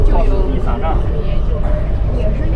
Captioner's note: chinese dialogue